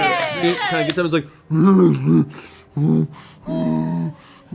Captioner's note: weary growls